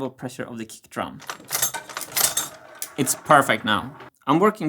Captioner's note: clack clack